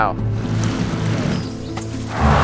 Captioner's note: water trickling; vehicles humming